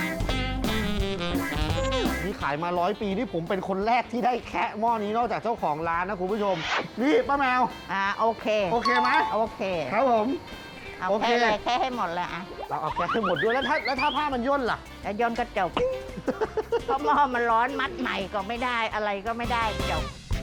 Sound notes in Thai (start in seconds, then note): 15.8 เสียงหัวเราะ